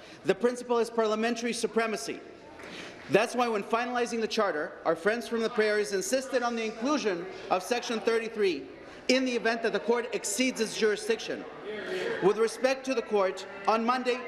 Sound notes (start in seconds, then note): none